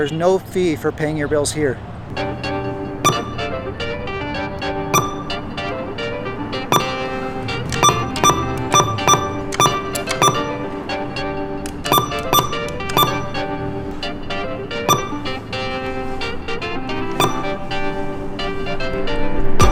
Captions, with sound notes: there's no fee for paying your bills here. (upbeat music) (ATM beeping)